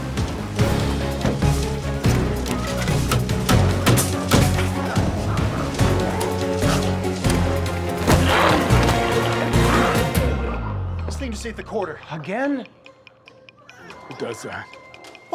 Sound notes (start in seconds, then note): 3.9 hammer banging; 8.1 intense music continues